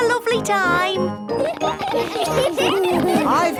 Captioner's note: laughter